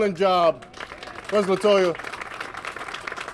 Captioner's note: applause